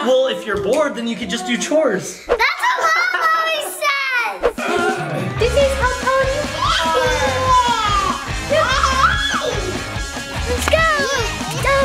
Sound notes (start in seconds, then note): 8.6 toddler squeals